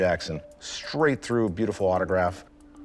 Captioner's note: none